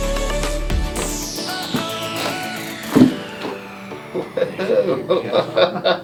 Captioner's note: popping noise; patient laughing